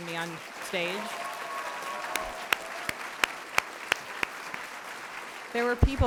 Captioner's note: applause